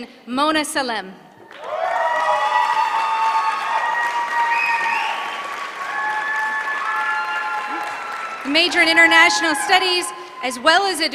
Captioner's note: applause